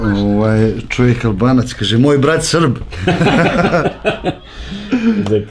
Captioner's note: laugh